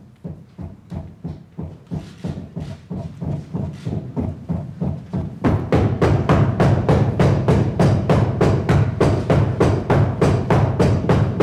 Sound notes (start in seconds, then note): 4.1 crowd stomping their feet